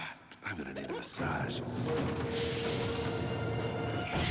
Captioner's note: groans